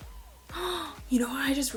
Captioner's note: gasp of realization